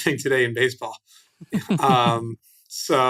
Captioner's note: laughs